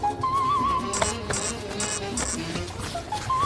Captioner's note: pat